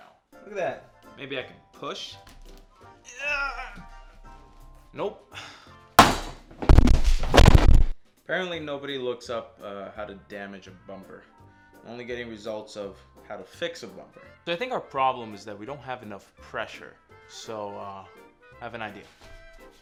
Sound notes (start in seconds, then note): 6.0 clattering